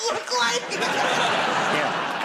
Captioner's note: laughter